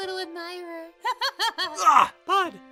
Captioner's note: laughs